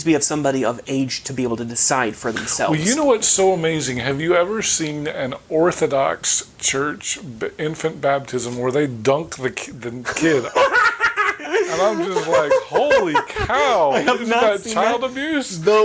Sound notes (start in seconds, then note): 10.0 chuckling